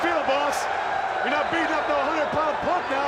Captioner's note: crowd cheering